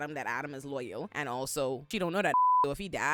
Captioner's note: beep